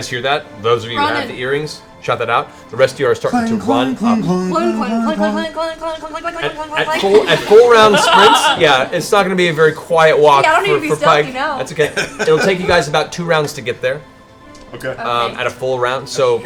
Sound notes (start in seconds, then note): 4.7 sing; 6.6 laughter